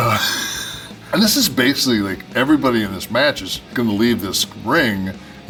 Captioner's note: laugh